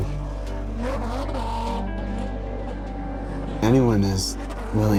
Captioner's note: truck engine roaring